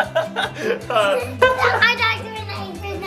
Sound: dad laughing

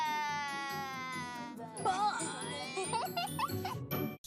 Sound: laughs

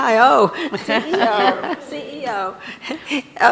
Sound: laughs

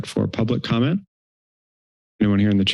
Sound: silence

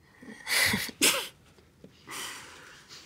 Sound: V and Laura laugh

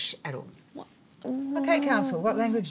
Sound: soft groaning

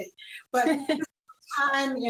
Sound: laughs

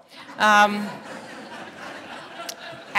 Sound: laughter

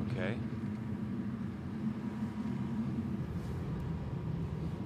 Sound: engine rumbles

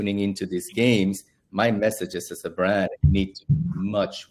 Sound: audio warble

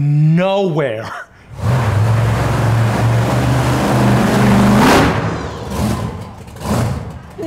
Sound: loud car noises

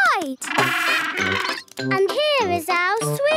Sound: honking

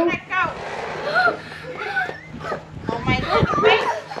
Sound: children gasp

